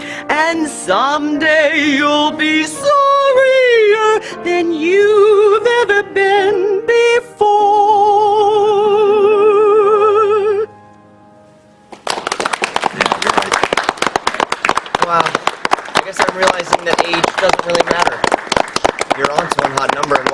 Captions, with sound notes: And someday you'll be sorrier Than you've ever been before (clapping) - Wow, I guess I'm realizing that age doesn't really matter. You're Aunt's a real hot number,